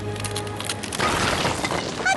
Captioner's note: crumbling